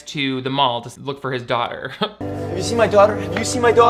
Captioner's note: laughs